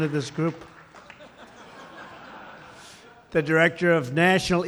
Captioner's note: laughter